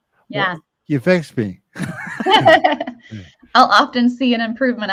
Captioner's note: all chuckle